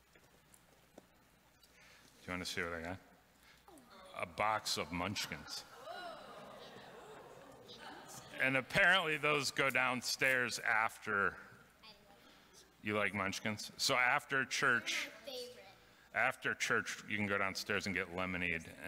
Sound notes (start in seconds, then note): 5.6 audience murmuring